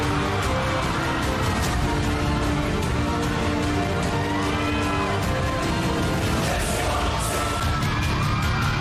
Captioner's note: crowd cheering